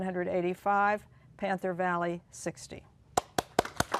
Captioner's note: applause